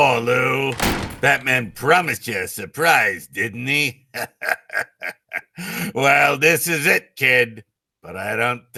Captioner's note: chuckles